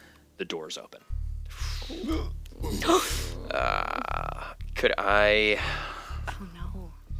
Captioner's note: startled noises